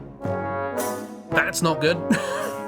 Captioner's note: laughs